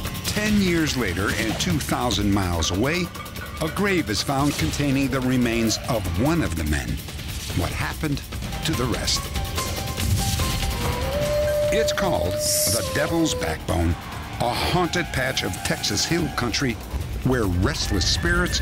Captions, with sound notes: 10 years later and 2,000 miles away, a grave is found containing the remains of one of the men. What happened to the rest? [theme music] [howling] It's called the Devil's Backbone, a haunted patch of Texas hill country where restless spirits